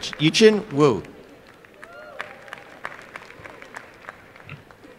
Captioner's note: applause